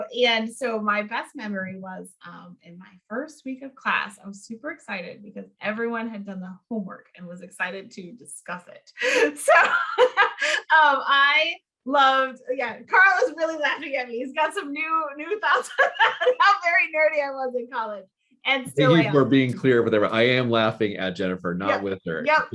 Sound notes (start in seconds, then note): 9.0 laughing; 15.4 laughing